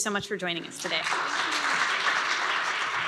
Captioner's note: applause